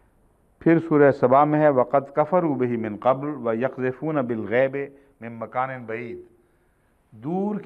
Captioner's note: Arabic